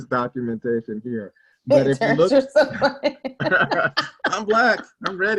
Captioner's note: laughs